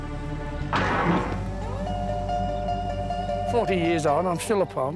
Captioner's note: suspenseful music; metal bars clunk